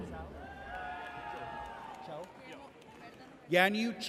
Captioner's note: audience cheers